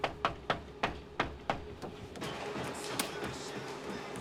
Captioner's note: knocks